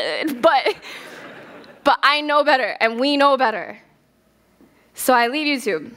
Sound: laughter

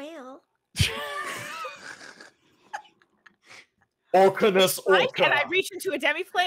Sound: panelist chuckles

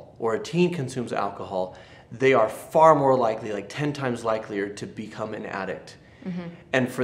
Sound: none

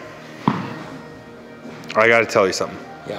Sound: ball thuds

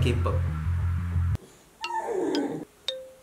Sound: crying

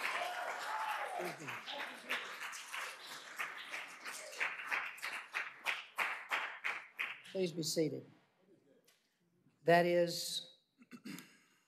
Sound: applause

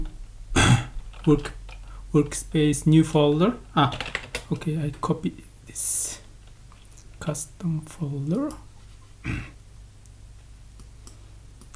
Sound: typing

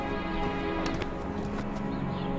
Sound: light slap

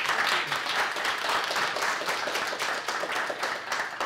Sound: applause

